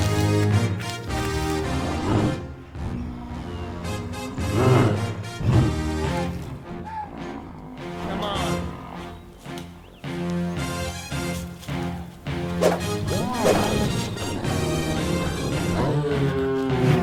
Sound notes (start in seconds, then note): 5.0 riverbeast roars